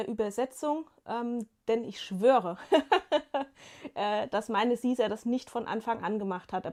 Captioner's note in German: gelächter